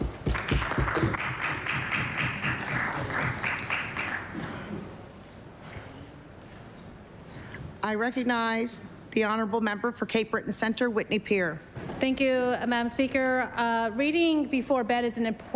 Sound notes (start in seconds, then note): 3.7 applause